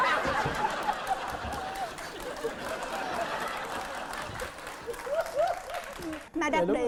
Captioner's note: laughing and applause